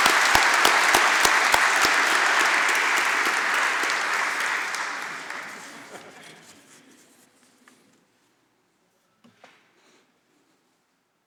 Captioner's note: applause